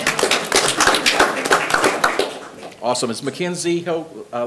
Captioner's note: everyone applauding